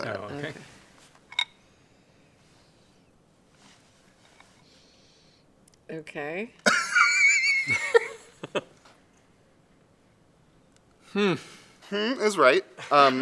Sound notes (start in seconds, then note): 6.7 laughs